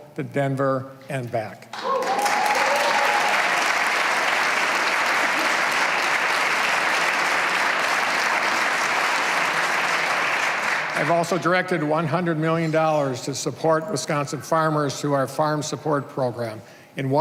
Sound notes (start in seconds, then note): 4.6 cheers and applause